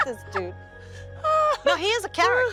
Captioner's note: laughing